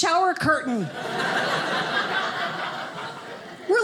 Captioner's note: audience laughing